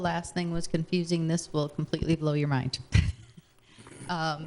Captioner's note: chuckling